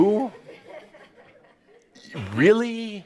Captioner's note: some chuckles